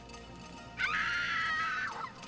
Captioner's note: screaming